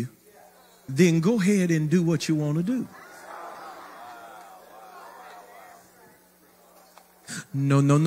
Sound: crowd moans

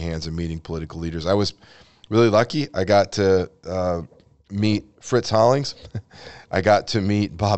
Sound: chuckles

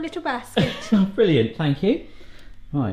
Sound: laughs

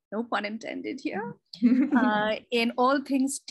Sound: laughs

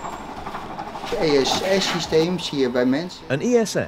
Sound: speaking in Dutch

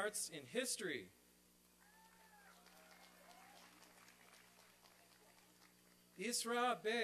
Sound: applause and cheering

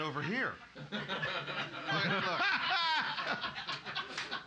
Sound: loudly laughing

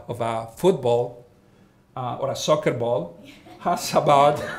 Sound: all laughing

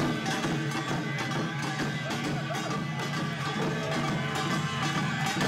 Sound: gong sounds

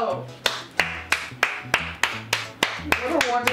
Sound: applauds

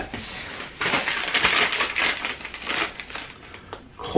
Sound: plastic crinkling

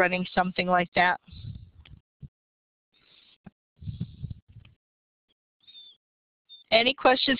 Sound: breathing

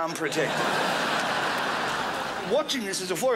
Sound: crowd laughs

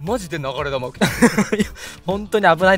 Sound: laughs

